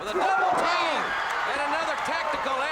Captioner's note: crowd cheering